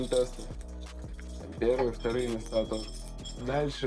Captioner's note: the sound of medals strumming